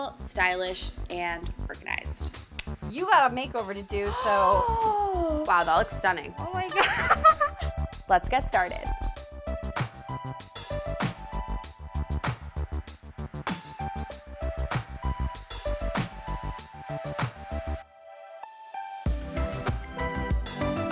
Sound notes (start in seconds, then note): 4.0 gasps; 10.8 upbeat music